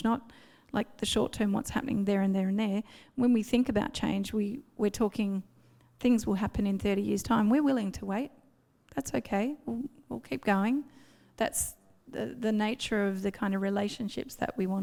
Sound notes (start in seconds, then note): none